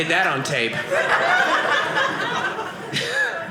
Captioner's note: audience laughing